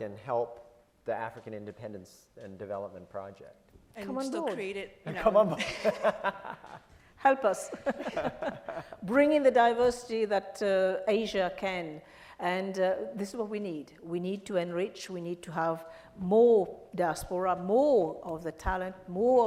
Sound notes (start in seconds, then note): 7.7 laughs